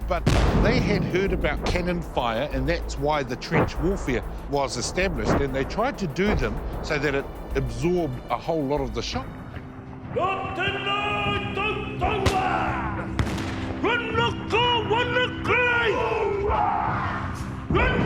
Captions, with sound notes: But they had heard about canon fire, and that's why the trench warfare was established. And they tried to do them so that it absorbed a whole lot of the shot. (shouting in te reo Māori) (canon firing)